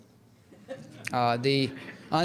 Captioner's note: audience laughs